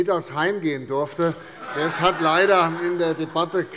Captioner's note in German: Allgemeine Heiterkeit